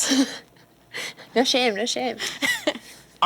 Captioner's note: laughs